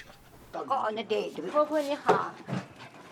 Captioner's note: Chinese spoken audio